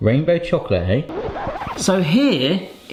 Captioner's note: tape audio scratch